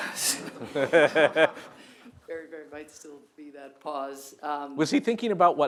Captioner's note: laughter